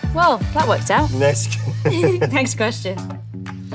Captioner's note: chuckles